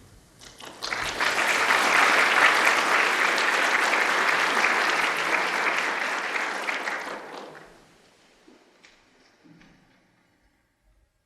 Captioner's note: applause